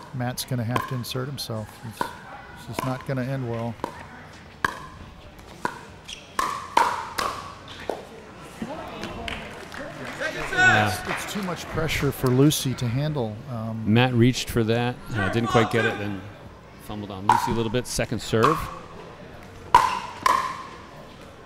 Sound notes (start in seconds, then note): 4.6 ball bouncing; 9.3 audience applauding; 19.6 ball bouncing